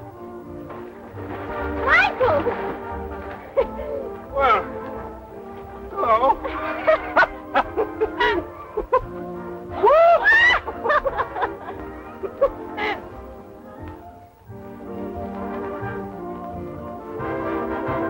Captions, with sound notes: Michael! Well, hello. [laughter]